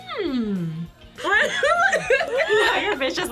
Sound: laughs

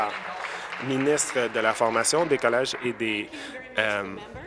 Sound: applause

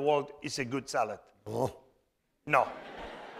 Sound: spanish

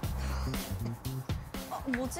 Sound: tick tock

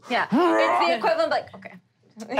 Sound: growling; laughing

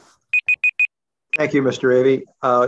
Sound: alarm beeps

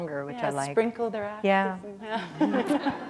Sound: laughter

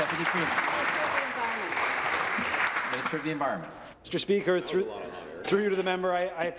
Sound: applause

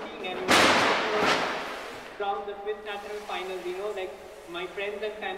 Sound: a big bang drowns out the speaker

